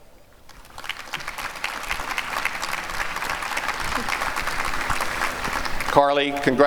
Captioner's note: applause